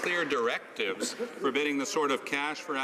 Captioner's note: some Applause